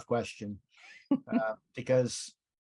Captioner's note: chuckles